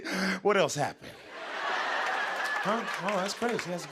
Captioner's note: laughter